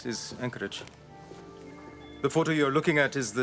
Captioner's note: footstep